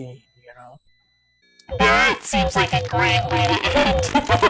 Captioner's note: outrageous robot sound to the voice